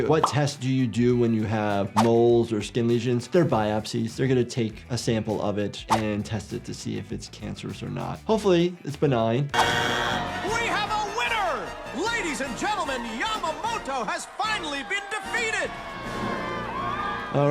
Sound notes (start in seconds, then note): 9.5 buzzer sounds; 16.1 crowd cheering